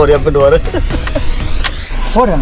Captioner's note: laughs